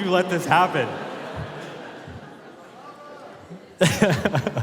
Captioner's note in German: Publikum lacht; Mark lacht